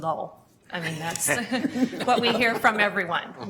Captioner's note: laughing